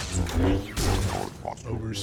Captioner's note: gunfire